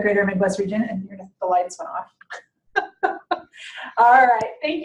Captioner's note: chuckles